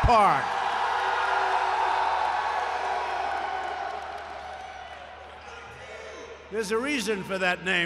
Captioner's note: applause